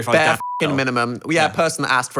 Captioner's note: beep